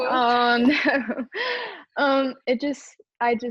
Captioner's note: chuckles